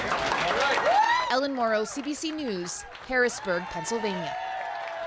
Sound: applause

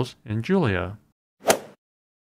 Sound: swoosh

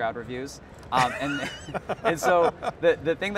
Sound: all laughing

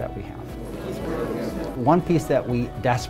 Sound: indistinct hallway chatter

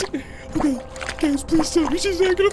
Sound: water sloshing

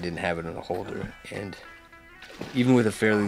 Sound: fish splashing

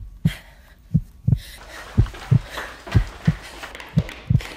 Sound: breath and heartbeat; footsteps

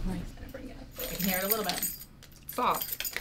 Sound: keys jingle

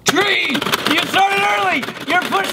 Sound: game clacking

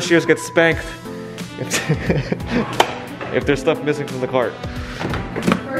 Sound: laughs

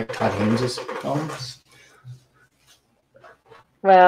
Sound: sound distortion

